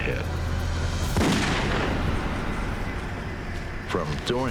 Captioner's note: gun shot